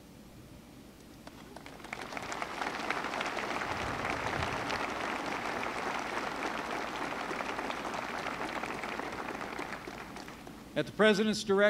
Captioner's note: applause